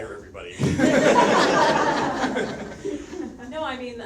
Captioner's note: audience laughs